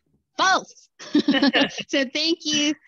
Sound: laughter

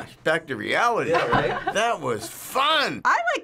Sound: laughter

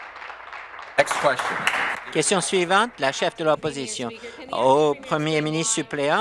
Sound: applause

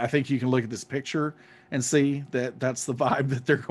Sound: laughing

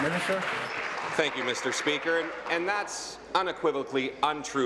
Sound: applause

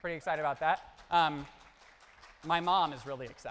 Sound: audience applauds

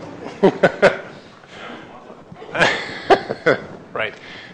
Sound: chuckles

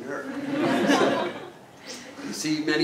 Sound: laugh

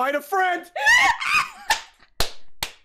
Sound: screams

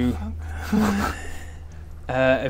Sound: breathes

